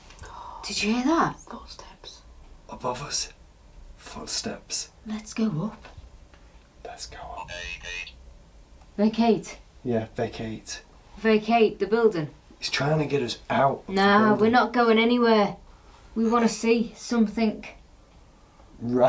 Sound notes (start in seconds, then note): 7.8 robot voice